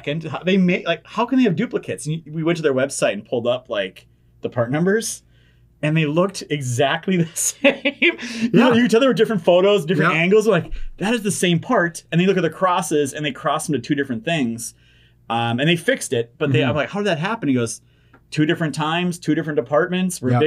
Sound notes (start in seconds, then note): 7.2 chuckles